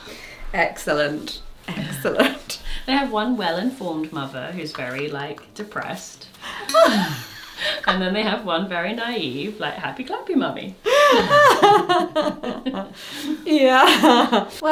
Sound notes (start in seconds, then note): 6.4 laughs; 10.8 laughs